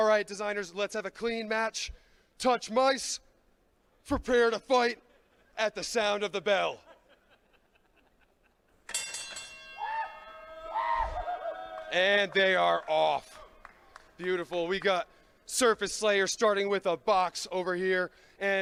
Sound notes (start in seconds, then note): 8.8 bell ringing; 9.7 crowd cheering; 9.8 whooping